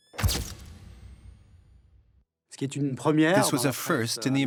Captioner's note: camera flashing